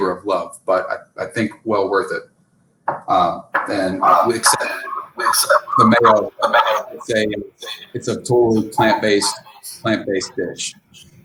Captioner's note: echoing